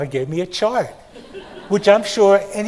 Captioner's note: attendees laugh